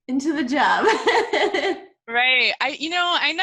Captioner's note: laughing